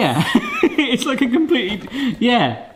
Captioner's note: laughing